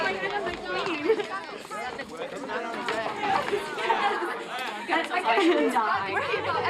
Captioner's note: people chattering indistinctly